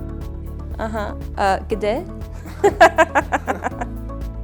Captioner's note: laughter